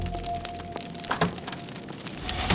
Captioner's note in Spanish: puerta se abre